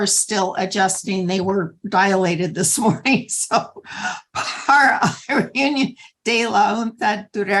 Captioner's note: laughter